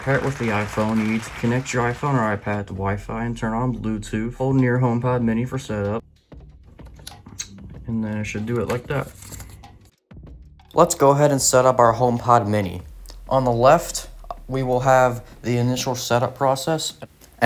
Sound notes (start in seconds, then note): 0.0 applause; 0.0 applause Continues; 9.0 paper booklet folds in